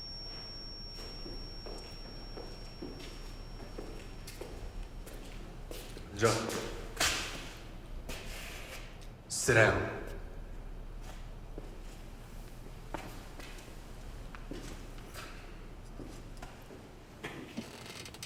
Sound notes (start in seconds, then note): 6.3 speaking Korean; 6.3 voiceover